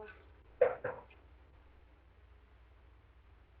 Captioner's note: knocking on door